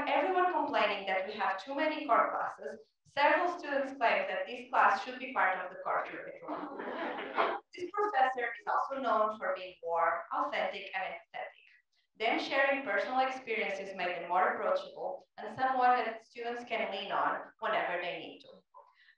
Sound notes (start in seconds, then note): 6.5 laugh